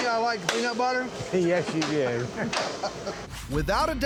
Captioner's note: laughs